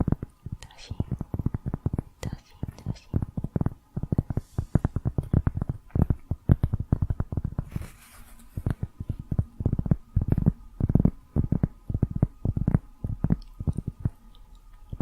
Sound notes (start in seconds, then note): 4.8 tapping on cork